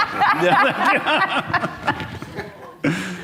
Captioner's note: all laugh